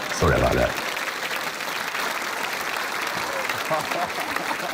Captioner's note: applause